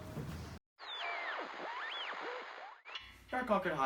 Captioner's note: Static